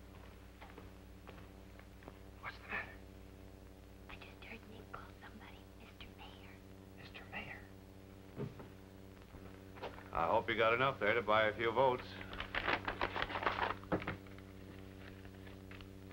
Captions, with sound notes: (WHISPERING) What's the matter? (WHISPERING) I just heard Nick call somebody "Mr. Mayor." (WHISPERING) Mr. Mayor? I hope you got enough there to buy a few votes.